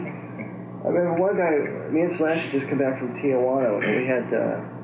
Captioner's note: laughs